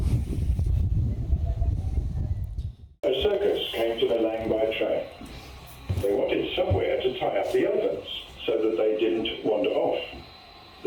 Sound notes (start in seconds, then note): 0.0 wind blowing; 2.8 recorded voice